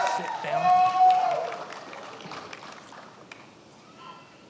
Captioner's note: many applauding